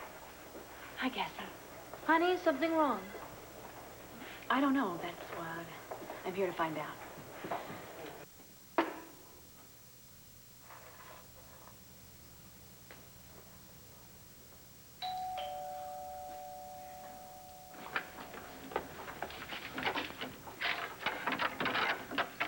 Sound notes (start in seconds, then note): 16.8 doorbell rings